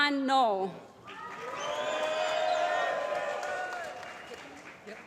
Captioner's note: applause